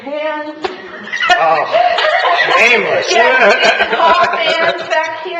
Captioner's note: laughing